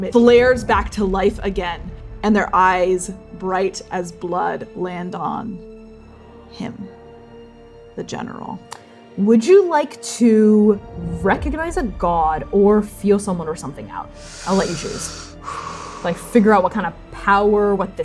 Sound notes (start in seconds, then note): 14.1 sharply inhaling; 14.1 exhaling; 17.5 exhaling